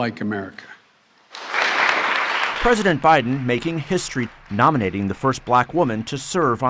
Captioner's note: voice-over